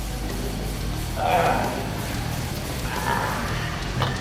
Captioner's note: grunts